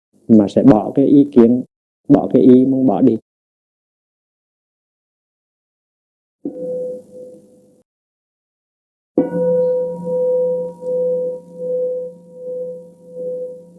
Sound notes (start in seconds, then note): 9.2 bell